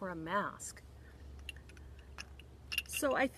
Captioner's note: glass clinking